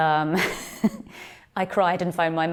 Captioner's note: laughs